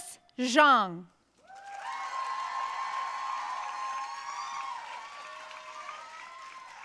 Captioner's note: audience cheering and applauding